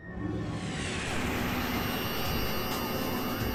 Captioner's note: electric static